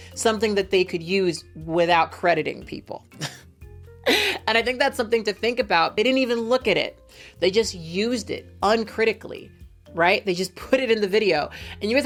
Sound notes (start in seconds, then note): 3.7 laughing